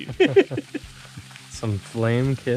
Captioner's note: chuckling